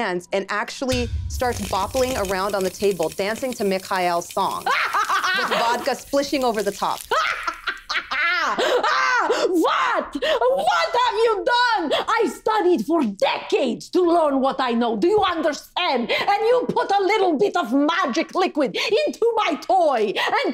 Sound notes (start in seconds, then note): 4.7 Isabella maniacally laughing; 7.1 maniacally laughing